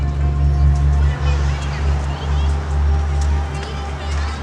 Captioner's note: children chattering